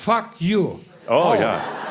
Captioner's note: laughter; more laughter